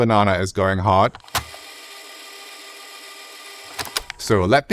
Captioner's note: winding